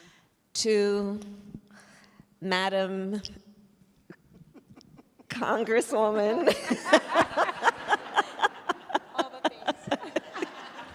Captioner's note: laughter